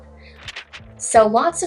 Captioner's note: page turning